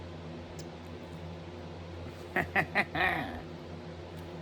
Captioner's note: laughs